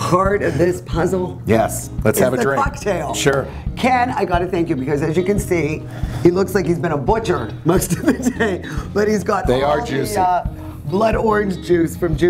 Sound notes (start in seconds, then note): 7.8 laughs